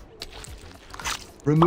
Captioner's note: flesh squelching